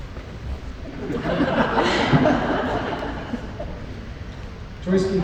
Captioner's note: laughter